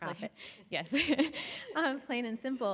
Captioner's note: chuckling